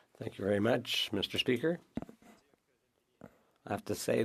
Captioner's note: speaking French